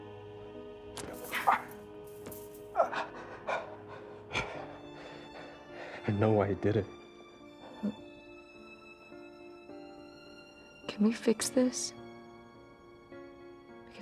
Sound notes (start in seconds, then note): 2.7 grunts